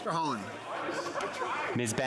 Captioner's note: speaking French